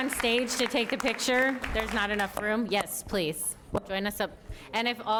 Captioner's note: applause